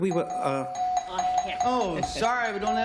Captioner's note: bell ringing